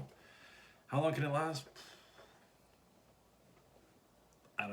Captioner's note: sigh